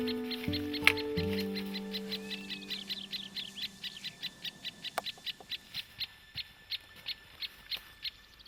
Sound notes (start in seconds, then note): 1.6 birds calling; 1.6 shuffling